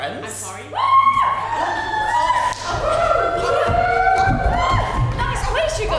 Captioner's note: audience cheers